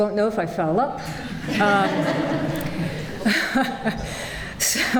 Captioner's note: laughter